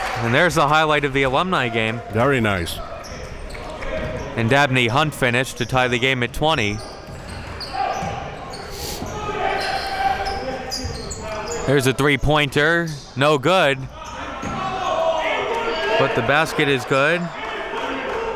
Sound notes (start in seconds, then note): 8.4 yelling; 13.8 cheering and yelling